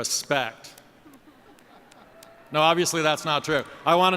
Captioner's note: laughter